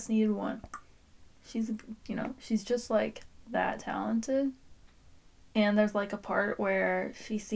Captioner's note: click